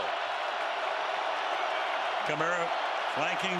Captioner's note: cheering